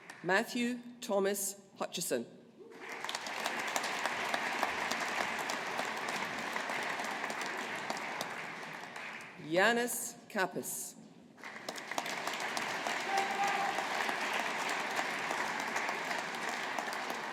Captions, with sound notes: Matthew Thomas Hutcheson. (AUDIENCE APPLAUDING) Ioannis Kappes. (AUDIENCE APPLAUDING)